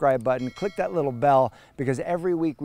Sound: bell ringing

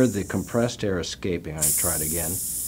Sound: hissing noises from butane ejecting

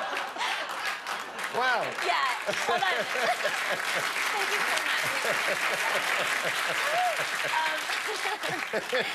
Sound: applause

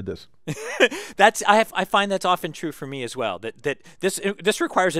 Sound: laugh

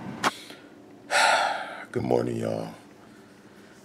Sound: sighs

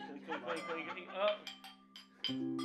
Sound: laughter; glasses clanking

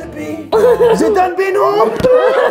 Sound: laughs

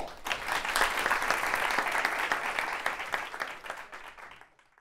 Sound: applause

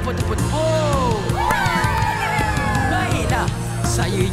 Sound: kids cheering

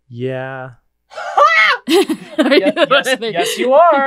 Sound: laugh

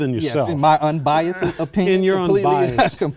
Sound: laughter

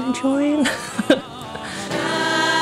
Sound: laughs

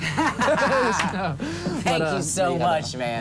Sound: laughter

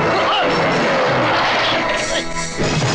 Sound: groaning

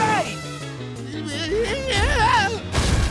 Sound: screaming

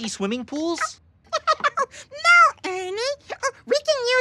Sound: laughing

